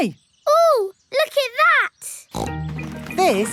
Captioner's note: snorts